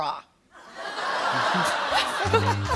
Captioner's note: laughter